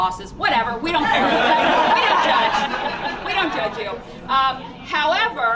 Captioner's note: laughter